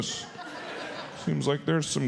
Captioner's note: audience laughs